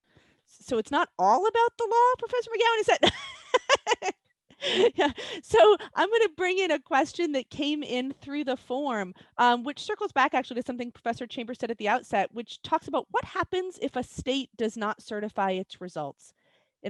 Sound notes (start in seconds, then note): 3.0 laughs